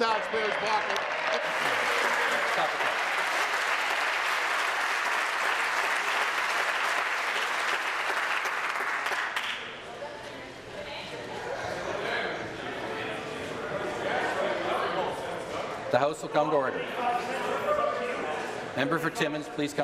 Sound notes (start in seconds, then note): 5.4 applause